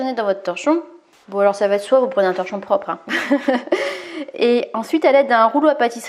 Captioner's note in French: rires